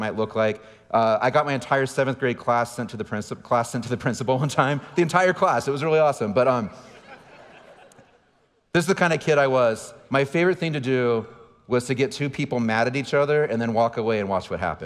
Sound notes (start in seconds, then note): 6.7 audience laughing